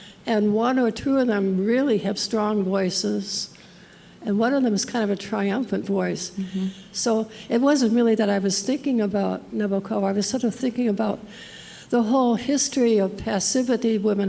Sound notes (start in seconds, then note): none